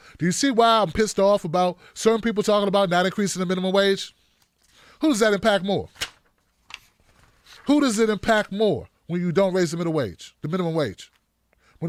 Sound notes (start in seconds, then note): none